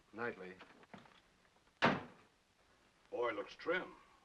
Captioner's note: door closes